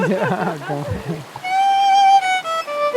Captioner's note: laughs